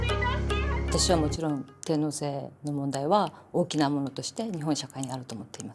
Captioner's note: speaking in Japanese